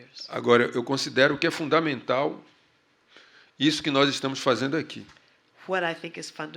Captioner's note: speaking portuguese